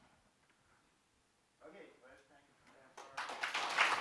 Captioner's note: applause